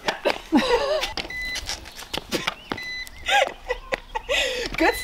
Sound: laughing, beeping

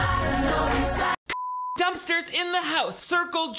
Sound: beep

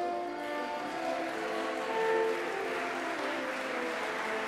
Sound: audience applauding

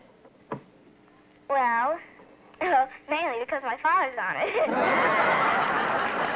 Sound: on phone; laughs

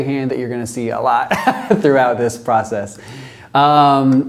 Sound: laugh

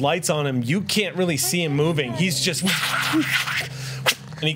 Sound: whooshes

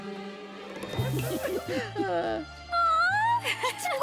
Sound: laughing

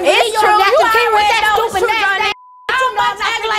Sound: beep; yelling

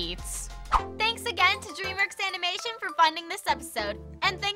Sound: quirky sound effects

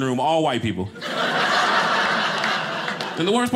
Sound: audience laughing

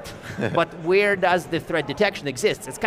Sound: chuckling

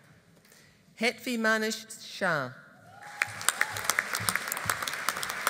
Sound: audience applauding

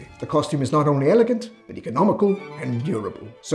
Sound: none

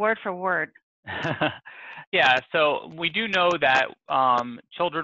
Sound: chuckles

